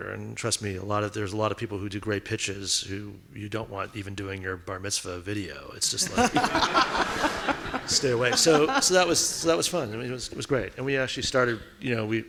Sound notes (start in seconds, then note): 5.9 audience laughing